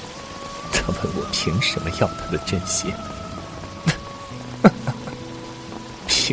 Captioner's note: laughs